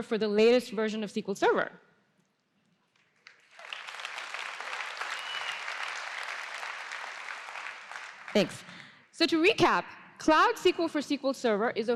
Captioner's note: applause